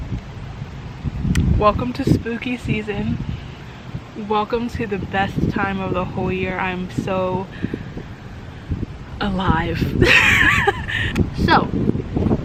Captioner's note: laughs